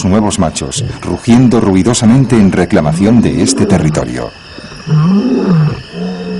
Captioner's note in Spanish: gemido